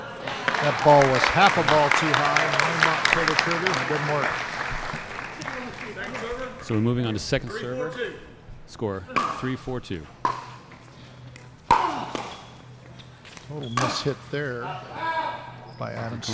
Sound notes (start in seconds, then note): 0.2 applause; 9.1 ball being hit; 10.2 shoes squeaking